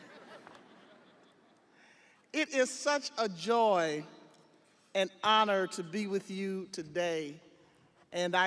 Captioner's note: audience laughing